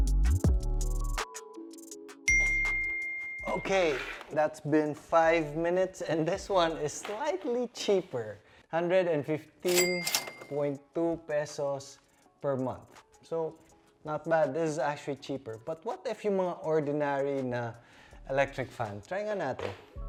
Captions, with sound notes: (bell ring) Okay. That's been five minutes and this one is slightly cheaper. Php115.2 per month. So not bad. This is actually cheaper. But what if with the ordinary electric fan? Let's try it out.